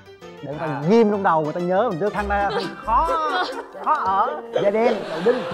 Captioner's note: laughing